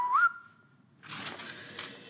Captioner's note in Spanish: Silbidos